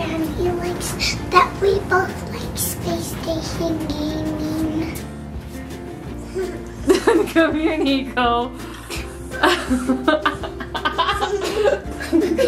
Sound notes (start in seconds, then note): 6.8 laughs; 9.3 all laughing